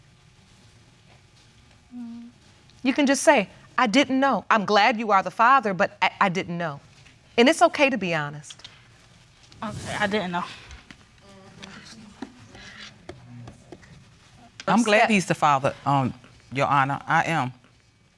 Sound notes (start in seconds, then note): none